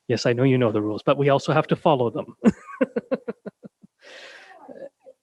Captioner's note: laughs